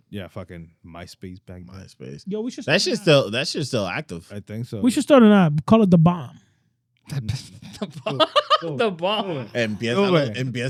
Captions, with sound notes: Yeah fucking MySpace bank. MySpace. That shit's still active. I think so. We should start an app, call it Da Bomb. (Laughing) Da Bomb. MPS, I love it.